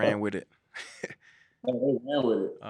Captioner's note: both chuckle